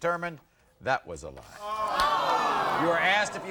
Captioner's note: audience gasping